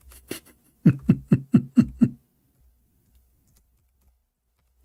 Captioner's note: Ketawa